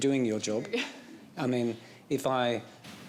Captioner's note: chuckles